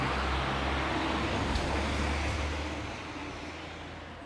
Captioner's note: sounds of traffic